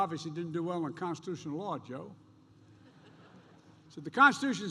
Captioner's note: laughter